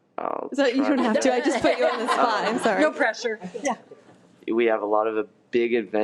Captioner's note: laughing